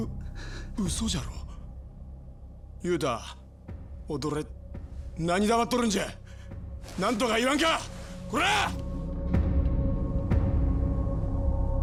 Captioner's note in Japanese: 叫び声